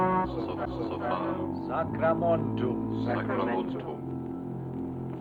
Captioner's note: speaking foreign language